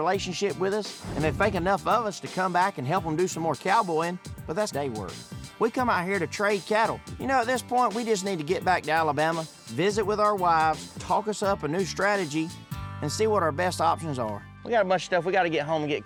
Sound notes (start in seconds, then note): none